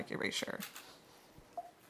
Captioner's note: beeping sound